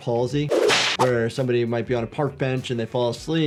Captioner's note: whip cracks; audio whooshes